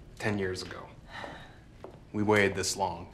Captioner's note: Claire sighs